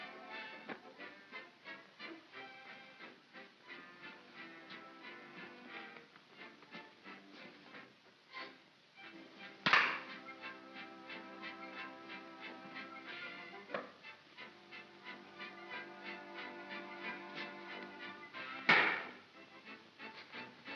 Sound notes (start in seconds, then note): 0.2 soft whimsical music; 9.6 crack; 11.6 soft whimsical music; 18.7 bang